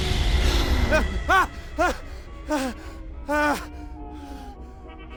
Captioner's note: dramatic music sting; startled screaming